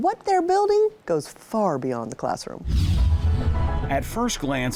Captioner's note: screen whooshes